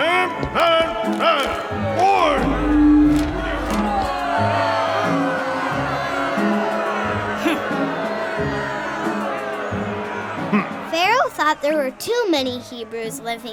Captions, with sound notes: (crowd boos) (Pharaoh's daughter huffs) - [Voiceover] Pharaoh thought there were too many Hebrews